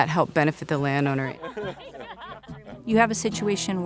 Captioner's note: laughing